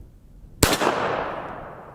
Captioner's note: pistol fires